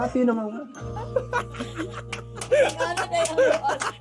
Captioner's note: chuckles; claps